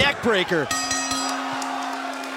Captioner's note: bell ringing; crowd cheering